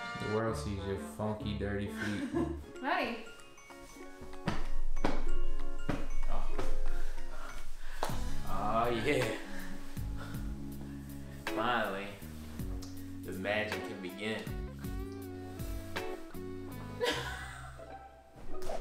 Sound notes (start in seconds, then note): 0.0 trumpet music; 2.4 laughs; 4.4 hand hitting bed; 9.6 sultry music; 17.0 laughs